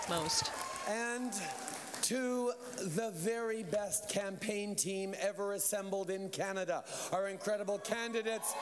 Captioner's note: cheers and applause